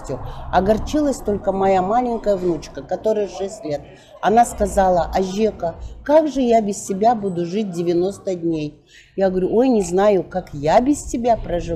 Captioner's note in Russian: бабушка на казахском